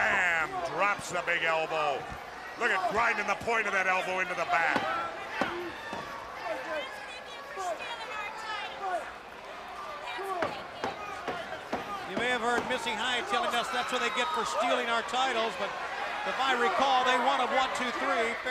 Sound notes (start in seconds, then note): 5.3 crowd chatter